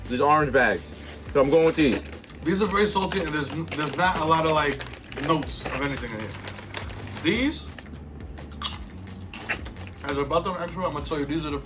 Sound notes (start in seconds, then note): 8.5 crunches chip